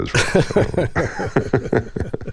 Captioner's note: laughter